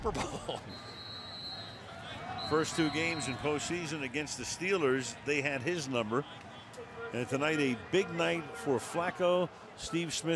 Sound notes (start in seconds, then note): 0.1 laughs; 2.3 whistles